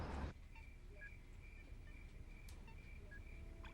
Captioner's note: game sounds; crickets